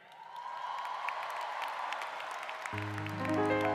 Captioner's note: applause